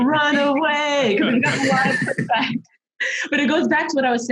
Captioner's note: laughs